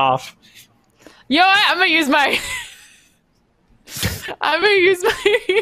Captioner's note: laughing